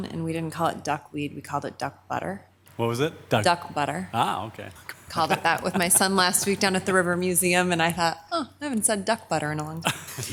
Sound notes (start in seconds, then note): 5.0 chuckles; 9.8 laughs